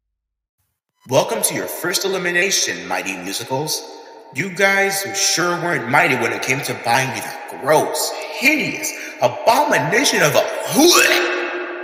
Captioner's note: gags